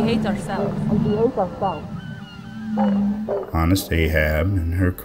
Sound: echoes

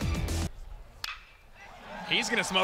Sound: ball hitting bat

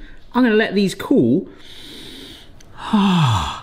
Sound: sniffing

